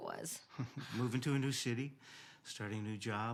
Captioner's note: chuckles